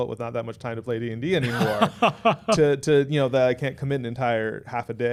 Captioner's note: laughing